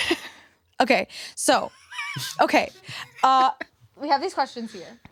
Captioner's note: laughs; laugh